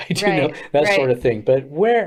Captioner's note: chuckles